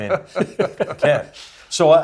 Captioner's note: laugh